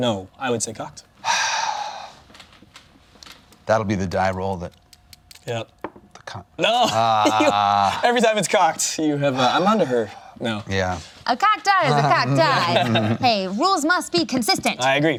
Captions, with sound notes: No, I would say cocked. (sighs) That'll be the die roll that... Every time it's cocked, you have not. I'm on to her. A cocked eye is a cocked eye. Rules must be consistent!